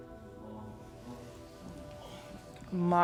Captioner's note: speaking in foreign language